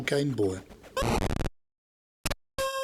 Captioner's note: flame ignites